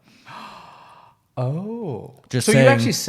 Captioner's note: gasping